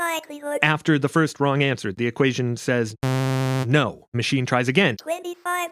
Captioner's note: buzz